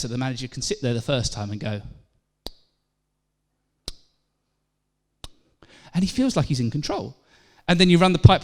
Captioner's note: click